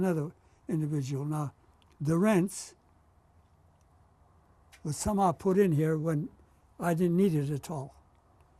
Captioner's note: non-english